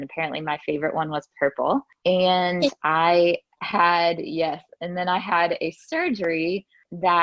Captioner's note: laughs